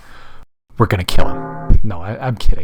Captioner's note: funeral bells chiming